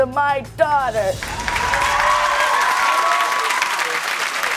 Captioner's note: audience cheers